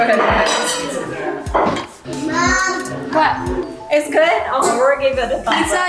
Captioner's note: children all talking at once